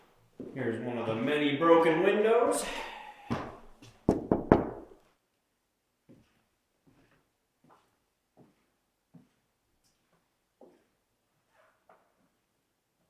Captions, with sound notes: Here's one of the many broken windows. (knuckles tapping)